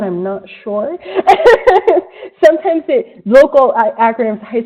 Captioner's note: laughs